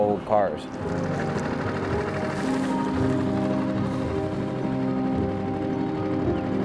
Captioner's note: gentle music continues; motor droning